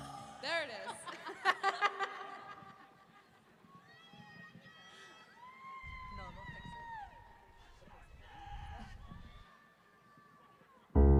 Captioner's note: laughs